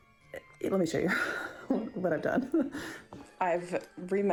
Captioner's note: laughs